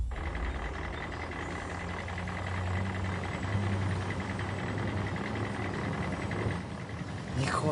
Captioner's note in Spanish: Ruido de motor